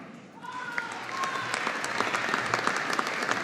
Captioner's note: audience applauding